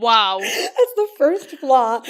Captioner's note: laughing